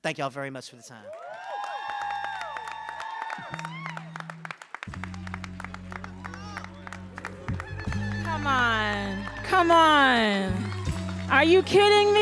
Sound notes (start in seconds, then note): 1.7 audience cheering and applauding; 4.8 mellow music